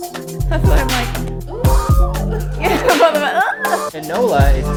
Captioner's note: high pitched hum